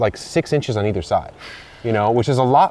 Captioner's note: exhales